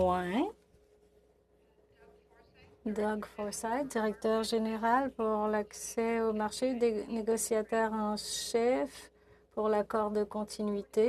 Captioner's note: speaking in French